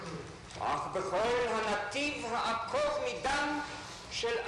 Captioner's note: in Hebrew